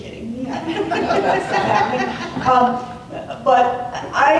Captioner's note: laughter